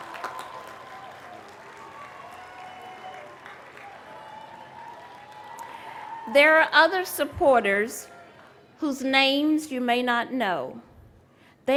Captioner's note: applause